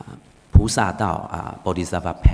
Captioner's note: speaking foreign language